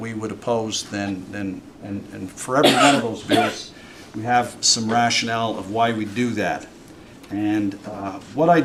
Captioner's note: cough